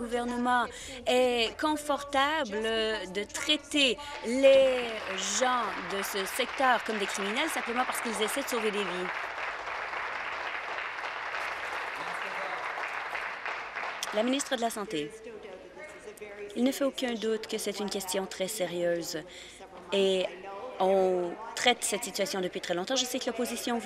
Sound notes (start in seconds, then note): 7.1 applause